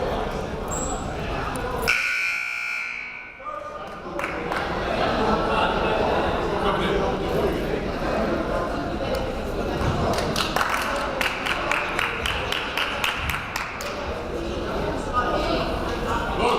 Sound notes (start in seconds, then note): 1.8 buzzer blares; 10.1 clapping